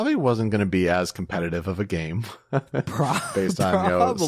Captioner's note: laughs